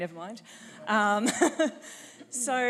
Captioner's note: chuckle